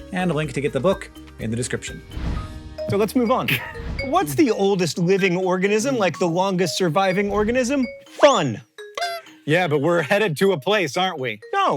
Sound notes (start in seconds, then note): 8.1 whistle; 9.1 little horn honk